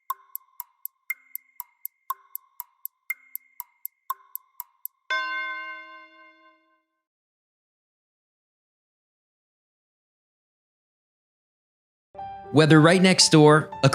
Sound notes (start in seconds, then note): 0.0 timer ticking; 5.1 bell rings